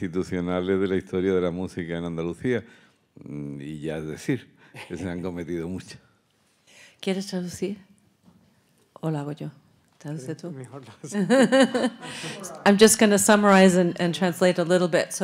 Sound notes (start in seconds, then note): 7.5 speaking in Spanish; 11.2 laugh